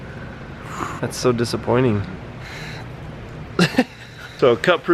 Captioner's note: laughs